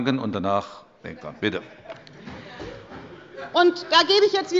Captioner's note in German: Heiterkeit bei Abgeordneten der SPD und der LINKEN